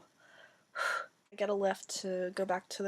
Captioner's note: exhales